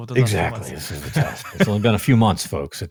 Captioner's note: laughing